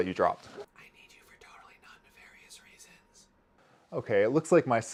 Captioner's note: whispering